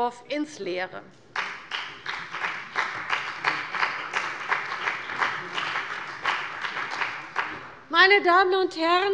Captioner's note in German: Beifall bei der CDU und dem BÜNDNIS 90/DIE GRÜNEN